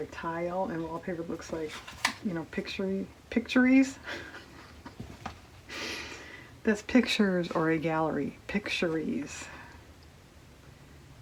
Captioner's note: laughs